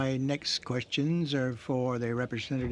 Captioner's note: speaking in french